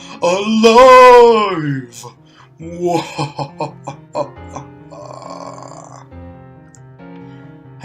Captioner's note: mwahu hahahahahahahahahahahahah